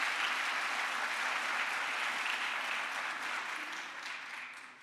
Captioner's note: crowd applause